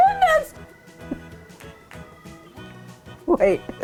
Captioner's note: laughing